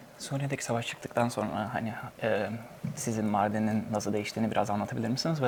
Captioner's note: translator speaks in Turkish